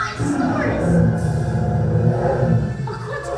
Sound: dinosaur growls

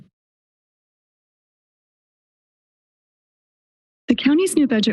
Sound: silence

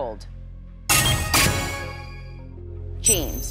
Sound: chime, chime

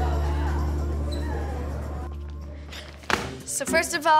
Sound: students chattering

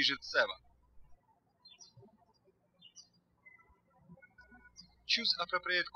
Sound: birds chirping

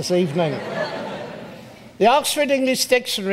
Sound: audience laughs

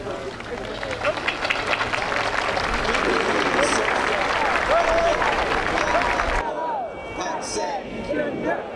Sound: clapping

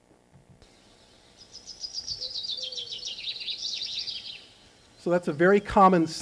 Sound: birds chirping

